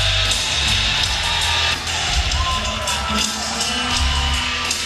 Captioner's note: audience cheers